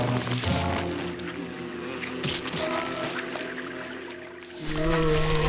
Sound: buzzing

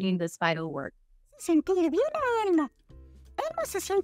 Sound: speaking Spanish

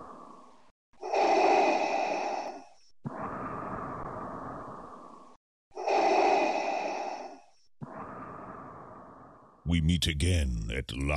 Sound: respiration

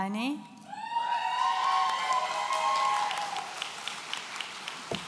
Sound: audience cheering

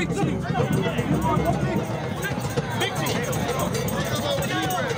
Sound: indistinct chatter

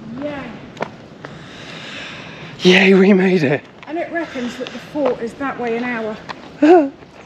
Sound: laughter

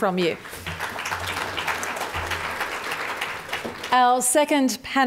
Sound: audience applause

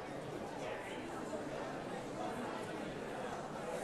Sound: audience chattering

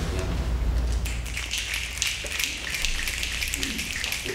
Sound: snapping

